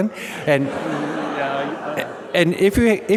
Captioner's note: audience laughing